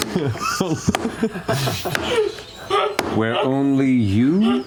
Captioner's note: laughter